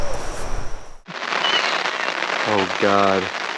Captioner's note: rain pattering